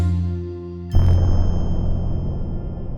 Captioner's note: cheery music; explosion!